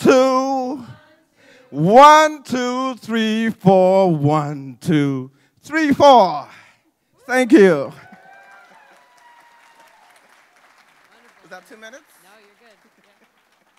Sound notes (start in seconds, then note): 8.0 applause